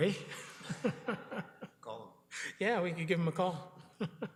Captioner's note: man chuckles